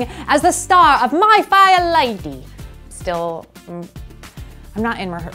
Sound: cockney accent

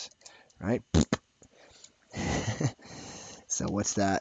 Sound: blows raspberry

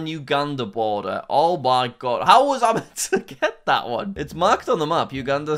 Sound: chuckles

